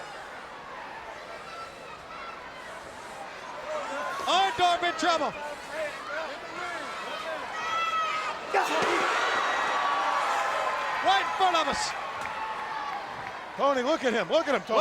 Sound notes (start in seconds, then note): 6.3 crowd cheering